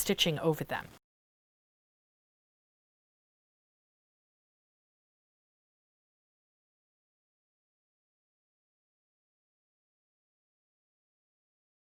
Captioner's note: no Sound Present